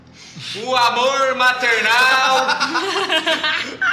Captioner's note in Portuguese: falando mais alto